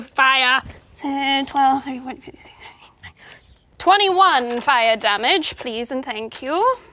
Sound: murmurs

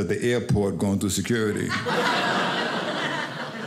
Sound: audience laughing

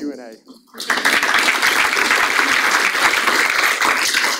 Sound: audience applauds

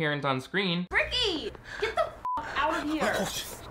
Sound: beep

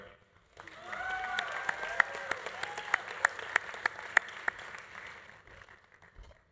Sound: audience applauding; audience cheering

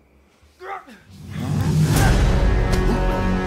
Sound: Eric groans; Eric groaning; fists pounding

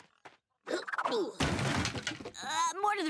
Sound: grunting

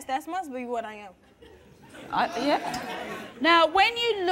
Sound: laughing

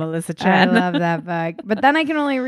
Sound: laughing

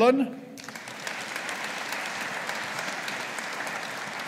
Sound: audience applauding

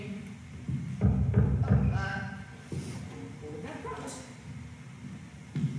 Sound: heavy knock on door

